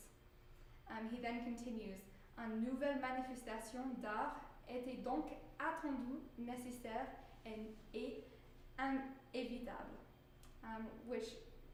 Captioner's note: speaking french